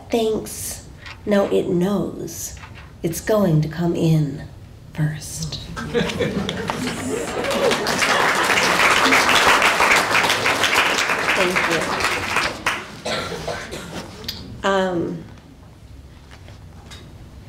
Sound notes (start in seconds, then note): 6.5 applause